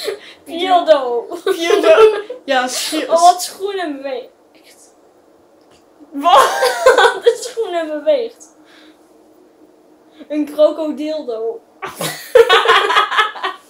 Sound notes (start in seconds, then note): 6.2 laughing